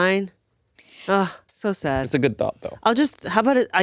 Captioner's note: sighs